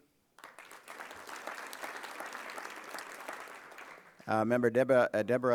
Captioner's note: applause